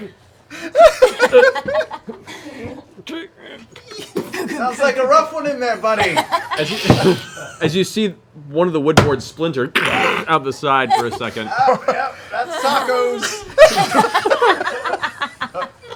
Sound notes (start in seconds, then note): 2.6 grunting; 7.5 chuckles